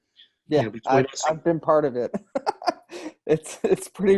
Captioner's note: laughing